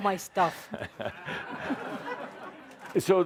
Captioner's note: laughter